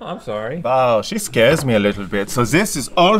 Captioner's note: German accent